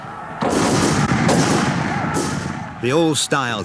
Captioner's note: guns bang; shouting